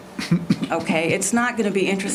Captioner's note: laughter